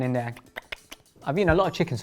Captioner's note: lips smacking